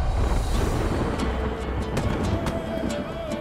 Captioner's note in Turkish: Gök gürleme efekti